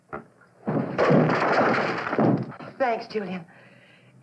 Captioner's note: crash